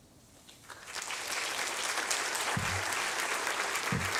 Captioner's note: applause